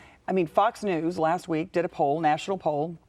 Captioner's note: none